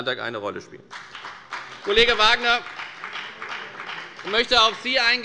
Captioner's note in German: Beifall bei der FDP